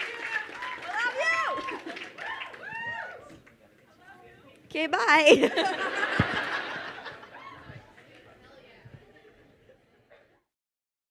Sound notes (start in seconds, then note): 2.1 crowd members cheering; 5.0 crowd laughs; 7.4 crowd murmuring